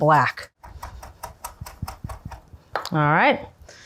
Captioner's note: knife chopping